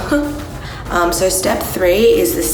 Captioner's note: laughs